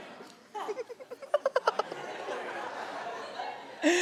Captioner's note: laughs